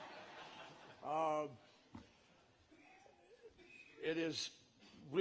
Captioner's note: laughter